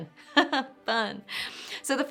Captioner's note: chuckling